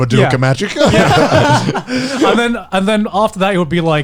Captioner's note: laughs